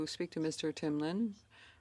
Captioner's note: speaking in French